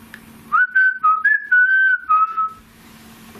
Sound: whistles

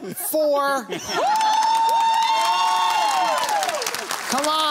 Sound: cheers

